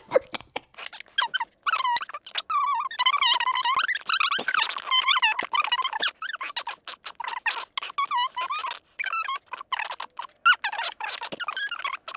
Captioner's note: laughing; sped-up talking